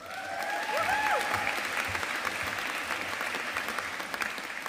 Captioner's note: audience applauding